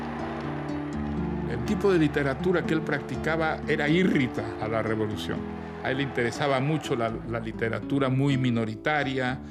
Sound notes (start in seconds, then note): 2.3 speaking Spanish